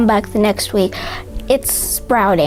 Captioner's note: gasps